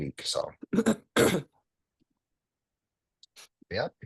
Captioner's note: throat clearing